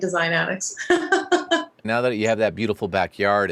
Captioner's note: laughs